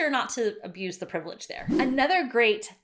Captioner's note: swishing